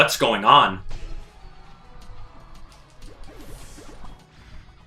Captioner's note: fighting sounds